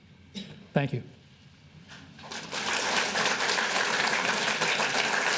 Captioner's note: audience applauding